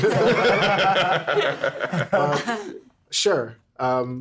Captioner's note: everyone laughing